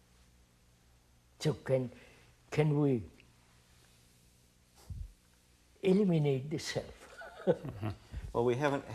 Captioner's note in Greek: γέλια